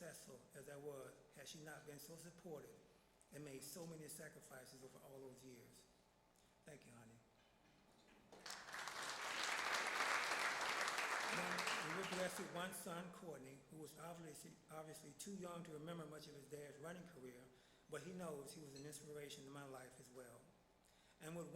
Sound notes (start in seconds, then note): 8.3 applause